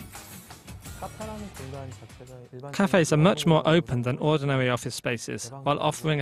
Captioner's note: Korean